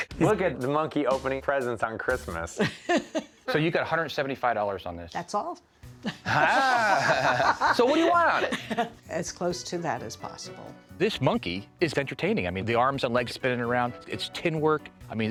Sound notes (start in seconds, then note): 2.6 laughs; 6.0 laughs